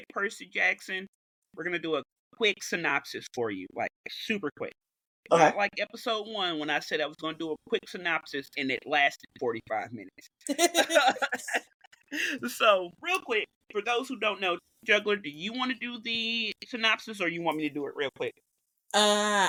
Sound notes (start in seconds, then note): 10.4 laughs